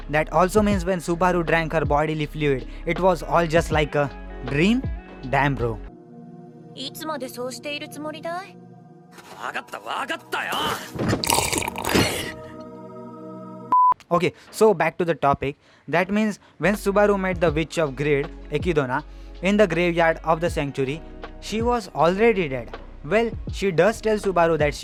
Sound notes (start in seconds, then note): 4.8 coughs